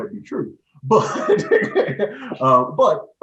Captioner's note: laughing